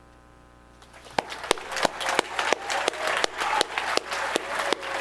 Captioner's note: audience applauding